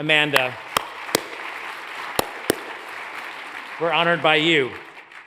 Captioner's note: hands clapping; audience applauds